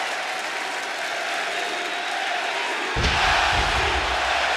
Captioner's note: chants "NXT"